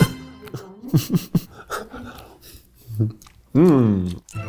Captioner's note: laughs